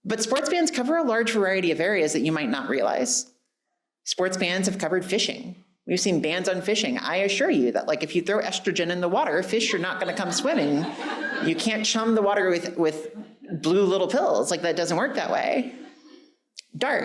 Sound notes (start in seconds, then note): 9.6 audience laughing